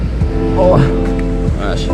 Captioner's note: sounds of struggle